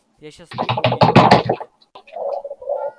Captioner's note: smacks keybord